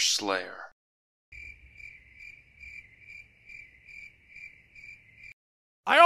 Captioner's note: crickets